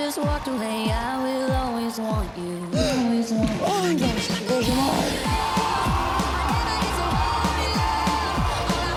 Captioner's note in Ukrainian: оплески